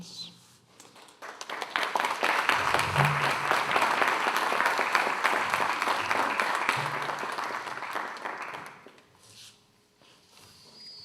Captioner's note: applause